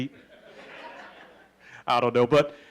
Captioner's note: laughing